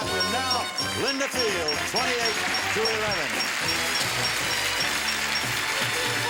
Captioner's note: applause